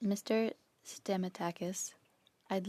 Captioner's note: speaking French